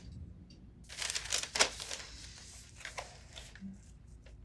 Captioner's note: paper rustling